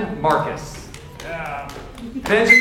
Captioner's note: audience member whistles